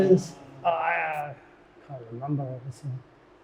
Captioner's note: guest grunts